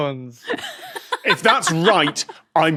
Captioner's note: guffaws